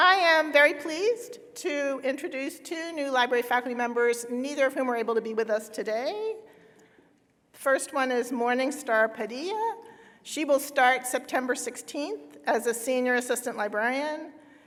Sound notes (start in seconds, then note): none